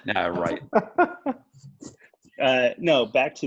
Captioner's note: laughing